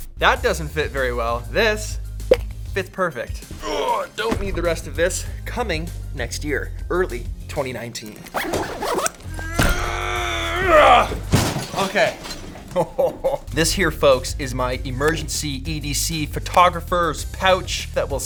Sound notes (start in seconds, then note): 9.2 grunts; 12.6 laughs